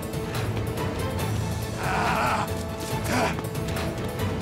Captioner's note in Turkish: Arıkbuka bağırıyor; Gerilim müziği